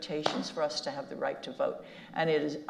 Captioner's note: slaps knee